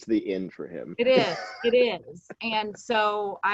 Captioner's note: chuckles